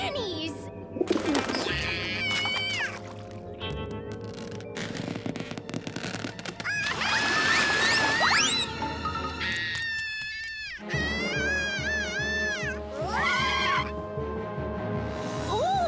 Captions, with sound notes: - Full of grannies. - Yeah. (balloons stretch) (Tucker shouts) (tires squeal)